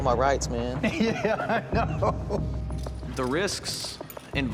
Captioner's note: laughs